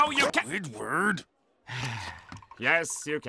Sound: sighing

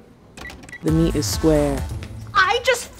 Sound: voiceover

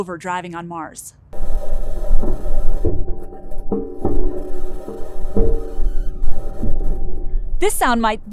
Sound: metal clanking

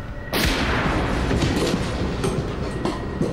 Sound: gun shot firing

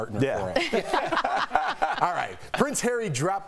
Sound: laughter

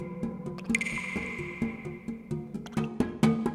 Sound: mouthing

